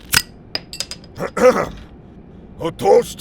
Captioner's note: Heavy Guy clears his throat